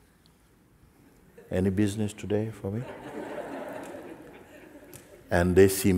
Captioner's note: laughter